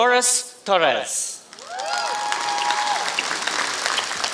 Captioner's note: applause